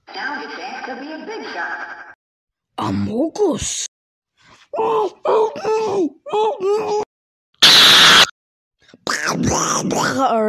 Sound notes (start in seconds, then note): 4.8 muffled screaming; 7.6 otherworldly noise